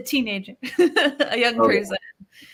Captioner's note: laughs